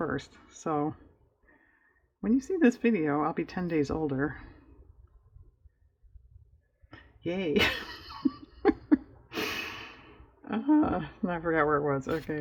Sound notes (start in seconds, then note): 7.6 laughs